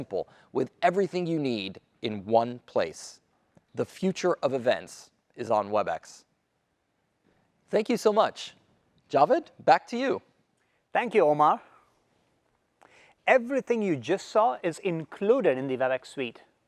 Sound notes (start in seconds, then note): none